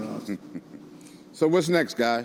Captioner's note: laughing